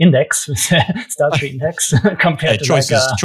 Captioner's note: laughs